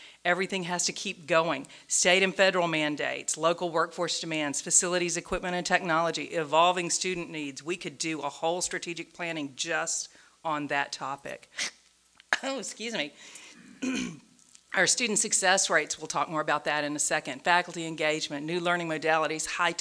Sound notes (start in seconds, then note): 13.6 coughs